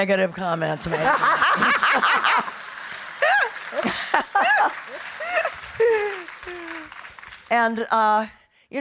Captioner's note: audience applauding; laughing